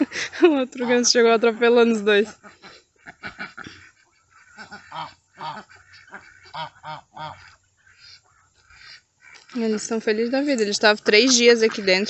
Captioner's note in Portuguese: risadas; risadas